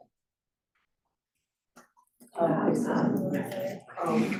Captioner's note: students chattering